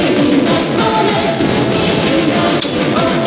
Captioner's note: roar